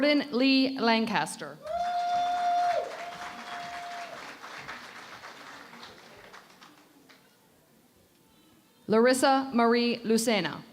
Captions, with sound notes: Jordan Leigh Lancaster. [ Cheering and Applause ] Larissa Marie Lucena.